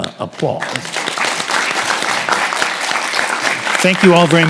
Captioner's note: audience applauds